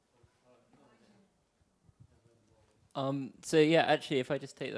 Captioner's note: people speaking softly